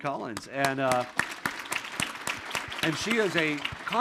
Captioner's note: audience and Governor Cox applauding